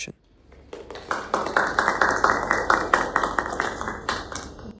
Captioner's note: audience clapping